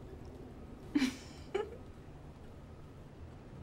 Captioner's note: chuckles